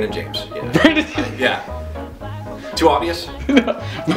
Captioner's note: laughter